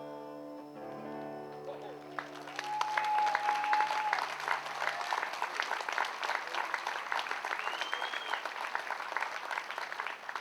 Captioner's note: music / applause